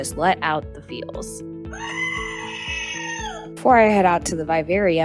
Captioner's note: screaming goat reaction button plays sound